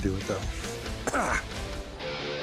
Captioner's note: coughs